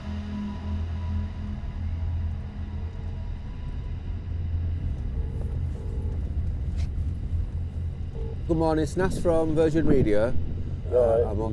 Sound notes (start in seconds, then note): 5.4 phone ringing